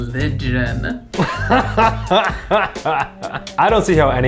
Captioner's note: Eugene laughing